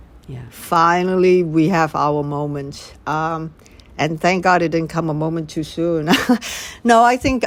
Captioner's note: laughter